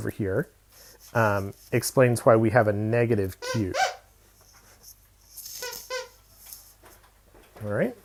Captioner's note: pardon my dog's squeak toy